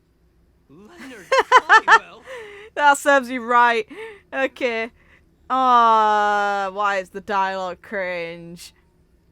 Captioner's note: laughs